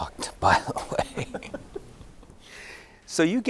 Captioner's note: laughing